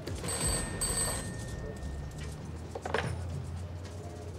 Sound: telephone ringing

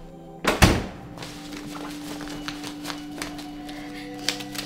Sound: door thuds; paper rustling

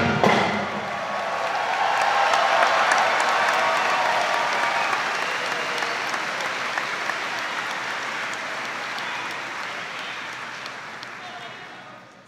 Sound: audience applauding

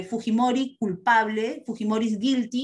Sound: non-english speech

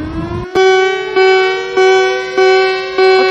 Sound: EAS alarm; tornado siren

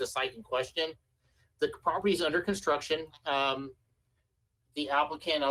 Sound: ~audio distortion~

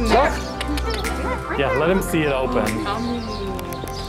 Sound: tongue clicks

